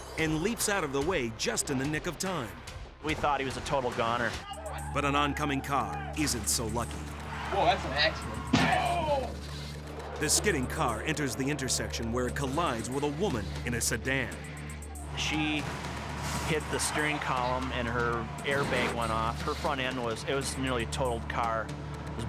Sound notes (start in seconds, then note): 6.9 vehicles thudding